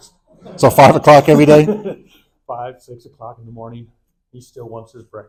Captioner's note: laughter